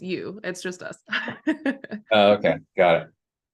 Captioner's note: laughter